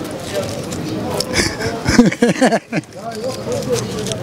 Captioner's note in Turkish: Gülme sesi